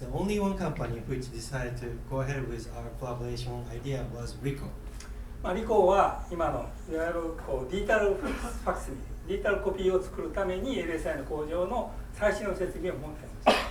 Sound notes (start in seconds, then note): 5.5 speaking in foreign language; 8.1 coughing